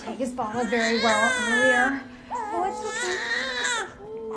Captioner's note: crying